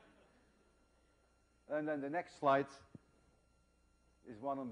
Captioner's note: laughter